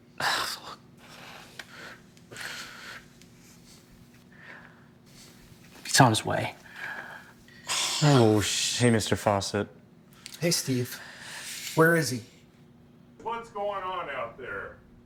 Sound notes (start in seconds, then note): 2.3 Brian sighs